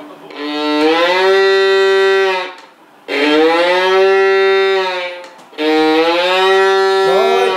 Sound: cow sounds

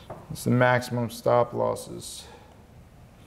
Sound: none

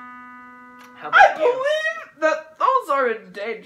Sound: screeching

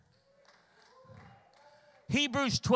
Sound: congregation cheers and applauds

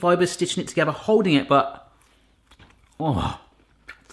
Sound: groans

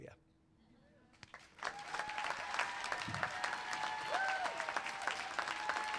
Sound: cheering, clapping

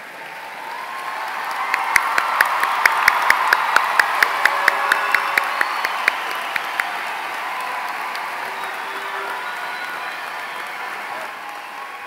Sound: applause

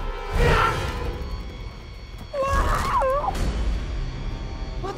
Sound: screaming

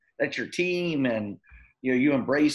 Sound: none

